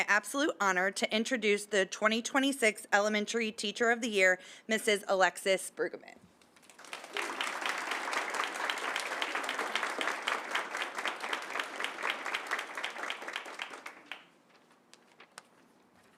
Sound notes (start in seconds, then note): 6.5 applause